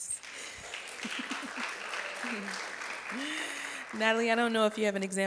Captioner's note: audience clapping